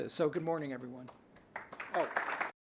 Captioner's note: applause